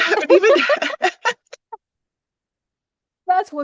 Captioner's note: laughter